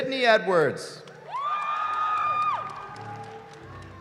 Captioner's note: cheering